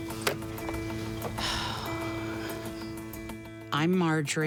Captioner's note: sighs